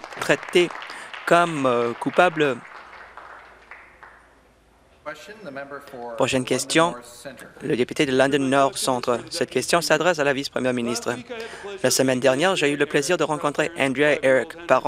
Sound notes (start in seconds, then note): 3.9 applause